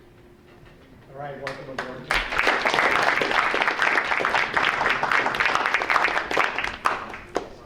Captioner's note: audience applauding